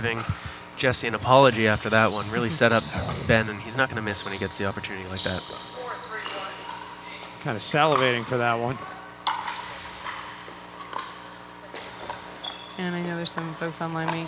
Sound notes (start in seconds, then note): 10.3 ball bouncing